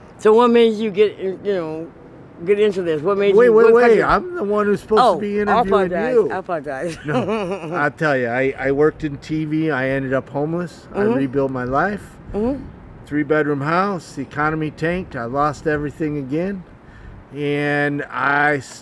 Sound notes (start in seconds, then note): 6.7 laughs